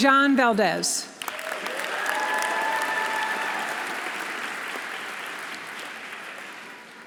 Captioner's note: audience applauding; audience cheering